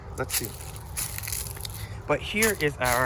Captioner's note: leaves crunching